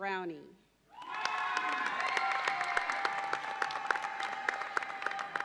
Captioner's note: audience cheers and applauds